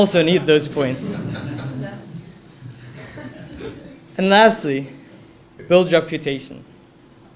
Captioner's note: laugh